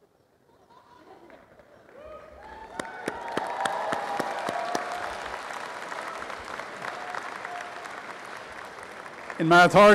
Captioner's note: applause and cheering